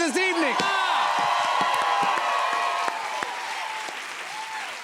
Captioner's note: cheers and applause